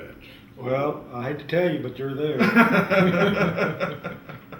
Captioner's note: laughter